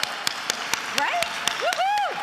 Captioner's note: applauds; attendees applauding and cheering